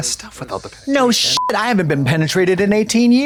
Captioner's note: beep